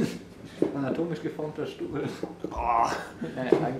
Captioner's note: laughs